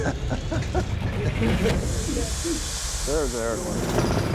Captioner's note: chuckles; air hissing; whirring